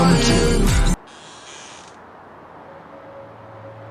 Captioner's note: door creaks